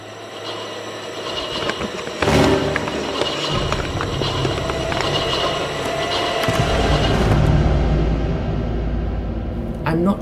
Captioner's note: ominous soundscape and crumpling paper